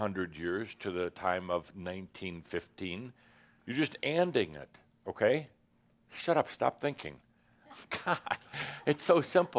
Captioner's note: Adamus chuckles